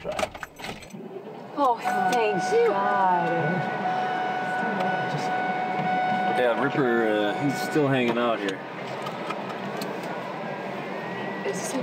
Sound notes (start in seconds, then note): 1.8 engine revs